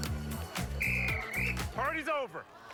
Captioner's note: whistles